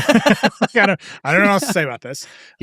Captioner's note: laugh